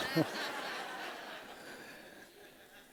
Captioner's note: laughter